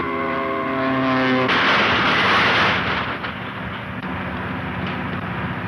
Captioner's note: airplane crashing